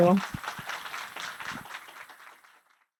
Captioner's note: applause